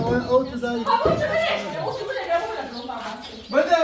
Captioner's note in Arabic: ضحك